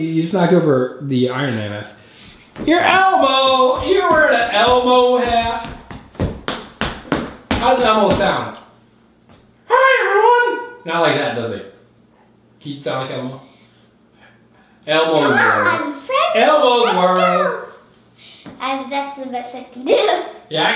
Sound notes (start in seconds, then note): 6.0 feet tapping